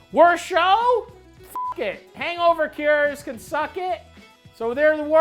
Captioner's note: beep